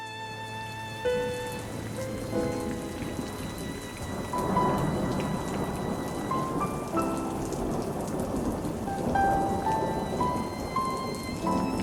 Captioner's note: sad music; rain and thunder